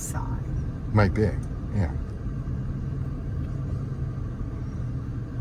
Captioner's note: car gently driving